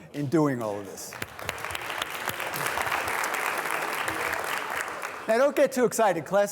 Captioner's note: students applauding